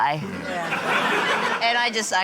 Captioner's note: laughter